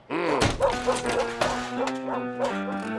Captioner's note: dog whimpers